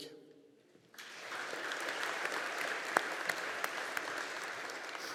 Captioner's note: audience applauding